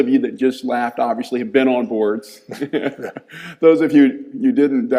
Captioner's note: chuckles